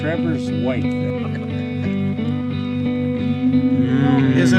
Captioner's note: men laughing